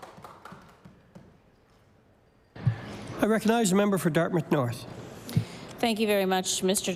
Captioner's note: applause